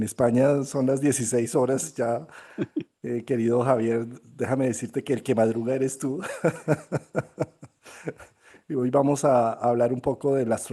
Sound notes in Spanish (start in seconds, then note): 6.2 risas